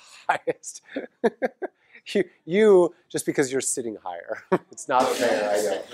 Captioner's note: laugh; laugh